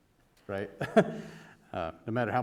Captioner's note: chuckle